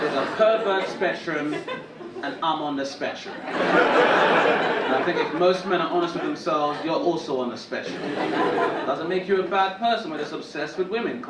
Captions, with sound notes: There's a pervert spectrum, and I'm on the spectrum. (audience laughing) And I think if most men are honest with themselves, you're also on the spectrum. (audience laughing) Doesn't make you a bad person, but it's obsessed with women.